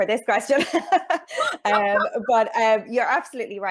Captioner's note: chuckles